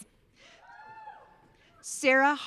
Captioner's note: audience cheering